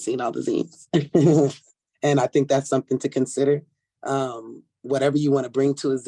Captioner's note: laughs